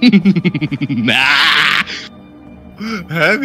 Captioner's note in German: Verrücktes Lachen